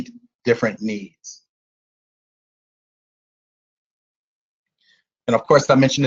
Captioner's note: silence